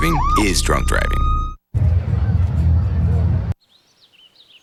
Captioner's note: nature sounds